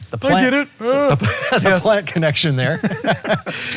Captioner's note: laughing